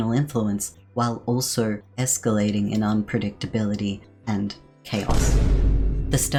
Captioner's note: boom sound effect